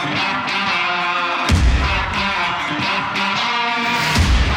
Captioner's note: upbeat rock music; steaks sizzling